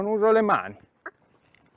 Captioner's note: cluck